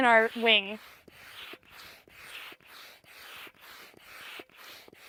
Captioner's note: bladder scraping